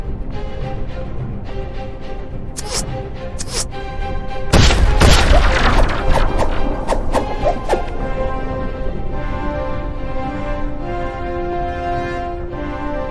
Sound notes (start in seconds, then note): 4.6 explosions booming; 8.4 dramatic orchestral music continues